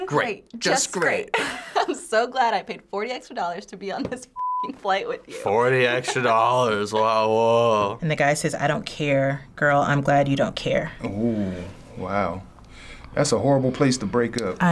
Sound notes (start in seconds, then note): 1.6 laughs; 5.6 sarcastic